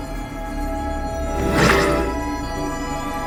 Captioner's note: Fort teleports out as teleportation sound plays